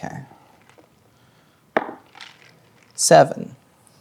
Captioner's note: dice rolling